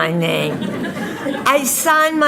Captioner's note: audience laughing